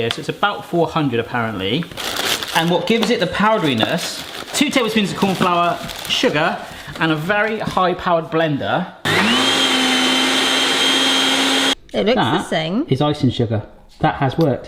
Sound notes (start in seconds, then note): 9.0 whirring